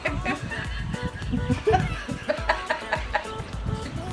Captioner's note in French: Rires